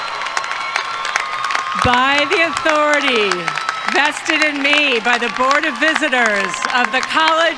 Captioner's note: applause